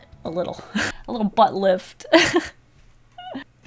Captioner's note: laughs